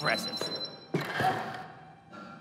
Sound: beeping

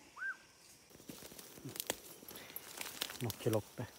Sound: whistle for signal

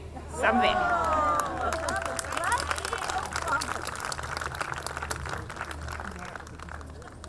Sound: audience clapping

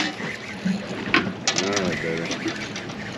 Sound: reel cranking

